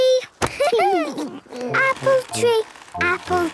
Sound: laughter

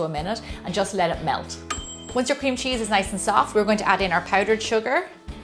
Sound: ding!

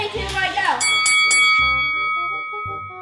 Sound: dings; soft music

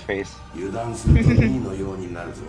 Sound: laughs

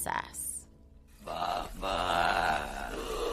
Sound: creepy Grunting

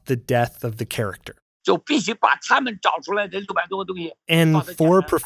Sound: speaking Mandarin

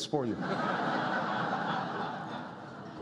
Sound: laughter

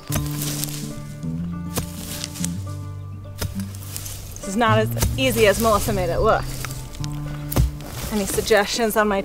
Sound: scraping

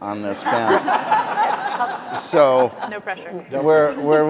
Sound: audience laughing

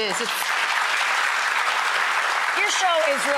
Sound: audience applause

